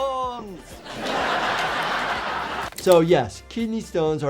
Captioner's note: viewers laughing